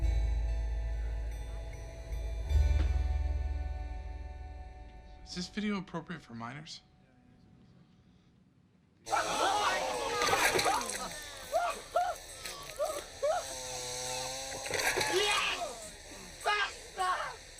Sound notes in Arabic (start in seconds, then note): 0.0 موسيقى غريبة; 7.3 صراخ